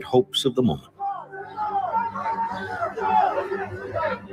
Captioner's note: men yelling